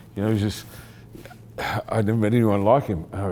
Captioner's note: chuckling